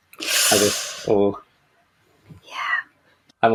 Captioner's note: winces